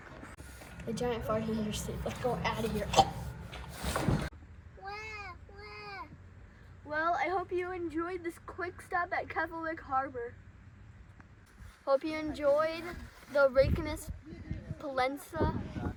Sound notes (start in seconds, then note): 2.7 choke